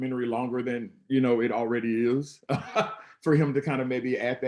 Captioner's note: laughs